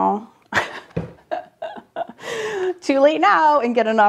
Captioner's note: laughing